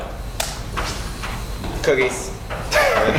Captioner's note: laugh